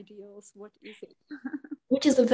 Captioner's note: laughs